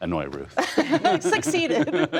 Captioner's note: laughter